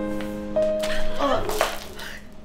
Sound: gasps

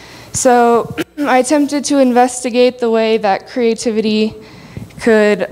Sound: clears throat

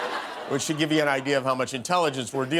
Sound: laughter

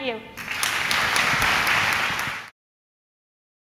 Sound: applause

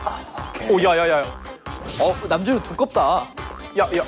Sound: irritated

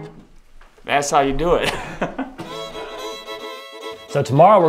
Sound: laughs

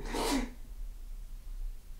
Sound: David cries

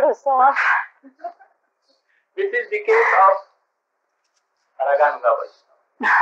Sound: laughter

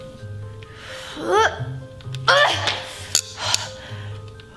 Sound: grunts

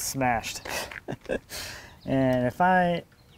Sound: laughs

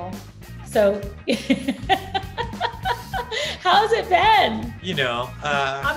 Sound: laughs

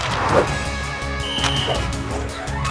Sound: whistle blowing

